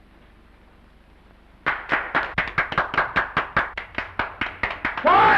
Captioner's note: prisoners applaud